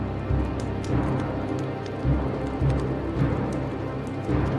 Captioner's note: fire crackling